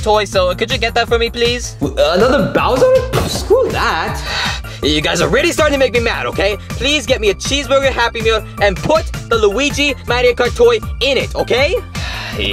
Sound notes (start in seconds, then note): 1.8 scoffs